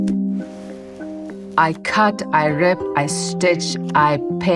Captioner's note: sponge swishes